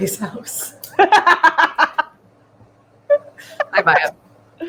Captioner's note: laughs